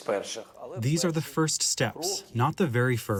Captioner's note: through translator